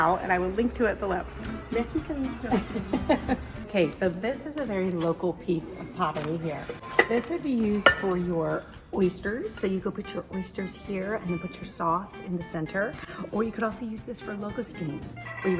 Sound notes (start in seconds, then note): 2.5 laughs